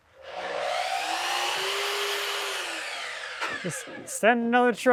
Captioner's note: saw buzzing